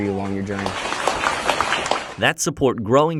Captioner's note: crowd applauding